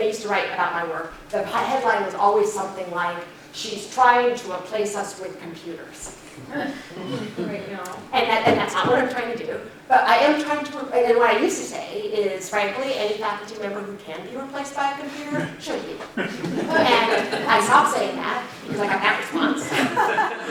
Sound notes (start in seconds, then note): 6.5 chuckles; 16.1 laughter